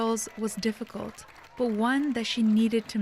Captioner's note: applause